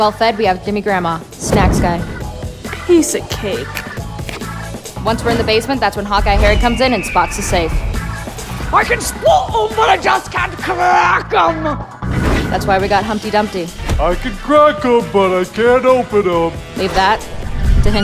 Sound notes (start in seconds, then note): 4.2 crunch; 8.4 scots accent